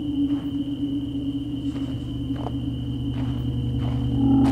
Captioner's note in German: Schnee knirscht unter seinen Schritten